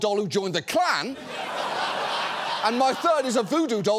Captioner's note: studio audience laughs